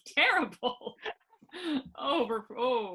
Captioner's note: laughing